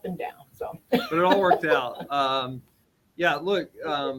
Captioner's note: laughs